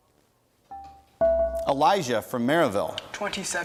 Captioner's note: bell rings